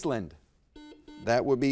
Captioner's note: buzzer beeps